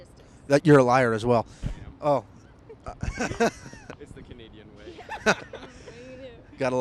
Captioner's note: laughter